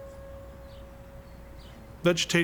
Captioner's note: bell dinging